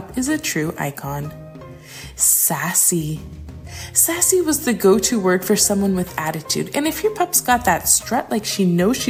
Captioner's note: sassy